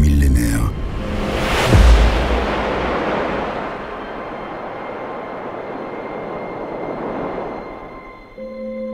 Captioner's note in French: Bruit de vagues